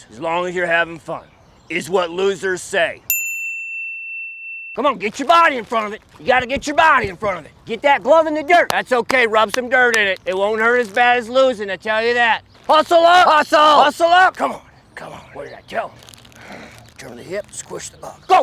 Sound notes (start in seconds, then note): 3.1 bell dings